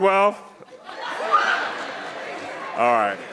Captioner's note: audience laughing